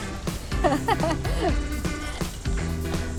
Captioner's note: laughs